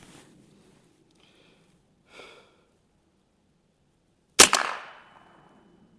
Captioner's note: gunshot